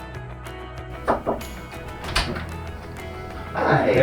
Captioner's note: door thuds and clicks